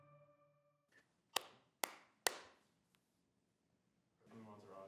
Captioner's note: clapping